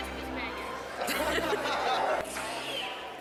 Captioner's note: laughter